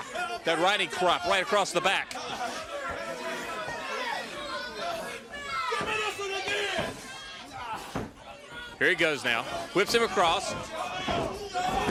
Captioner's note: crowd chatter